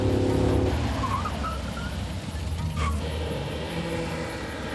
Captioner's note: tires screeching; car engines revving